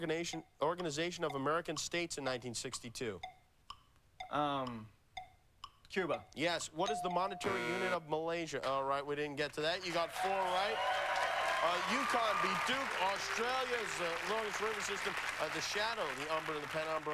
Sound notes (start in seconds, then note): 7.4 buzzer